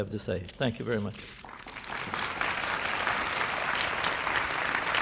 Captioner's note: applause